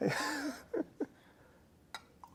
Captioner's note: chuckles